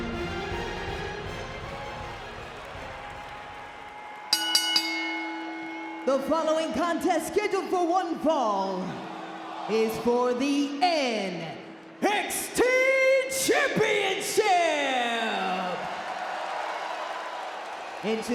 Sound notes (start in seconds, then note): 4.3 bell rings; 15.6 crowd cheers